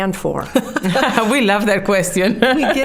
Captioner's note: laughing